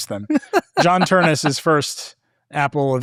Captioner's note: laughing